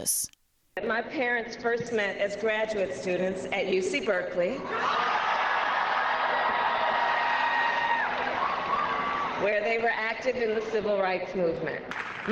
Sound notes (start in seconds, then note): 4.8 laughter